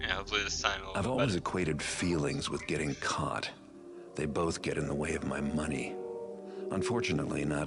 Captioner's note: Garrett, smoothly